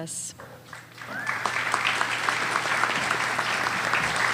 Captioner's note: applause